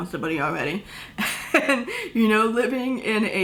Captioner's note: laughter